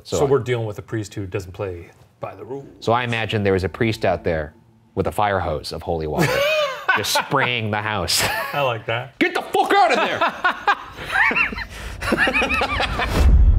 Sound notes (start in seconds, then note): 6.1 laughing; 9.8 both laughing